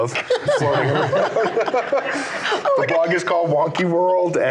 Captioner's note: laughing